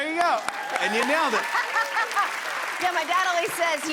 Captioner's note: cheers and applause